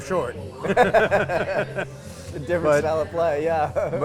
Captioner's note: both laugh